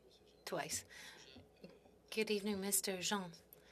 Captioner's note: speaking French